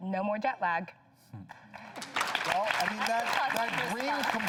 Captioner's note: audience applauds